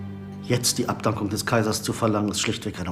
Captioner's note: none